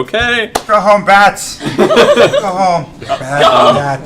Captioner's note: laughter